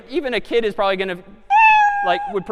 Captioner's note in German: meow